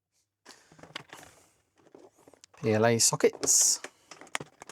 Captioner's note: silence